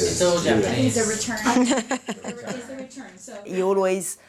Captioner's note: laughter